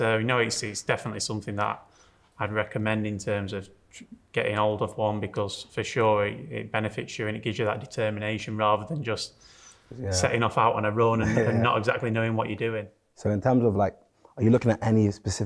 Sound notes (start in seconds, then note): 11.1 chuckles